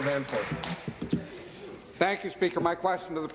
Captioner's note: applause